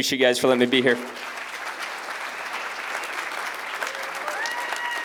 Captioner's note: applause, cheers